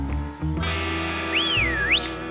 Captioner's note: whistles